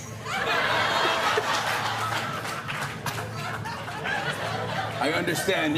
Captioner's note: laughter